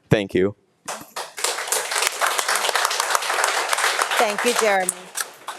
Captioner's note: audience applauding